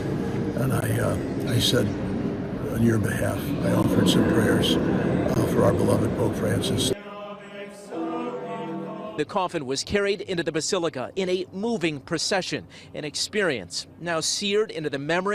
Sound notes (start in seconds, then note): 6.9 chanting